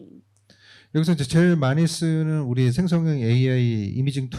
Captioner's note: speaking korean